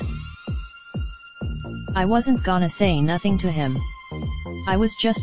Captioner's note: imitating Izzos voice